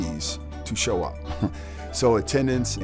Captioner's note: chuckling